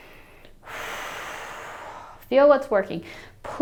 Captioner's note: exhales sharply